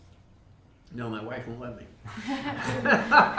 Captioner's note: all laughing